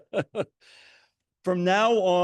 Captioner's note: laughs